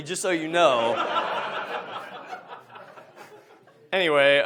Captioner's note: audience laughs